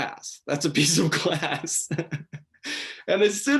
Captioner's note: laughing